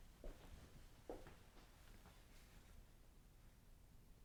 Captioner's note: footsteps clicking gently